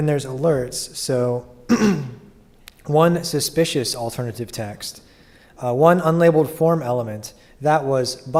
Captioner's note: cough